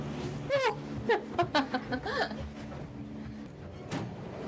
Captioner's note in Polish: śmiech